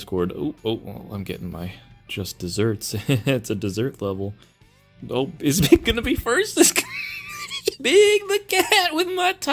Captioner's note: cackles